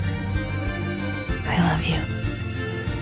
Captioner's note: voiceover